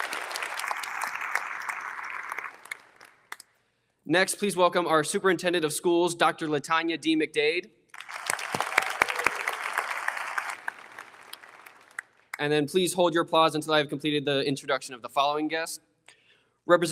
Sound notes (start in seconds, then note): 0.0 audience applauding; 7.9 audience applauding; 9.7 audience cheers